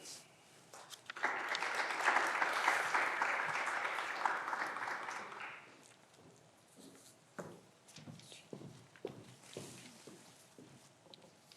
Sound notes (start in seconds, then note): 0.7 clapping continues; 1.0 footsteps approaching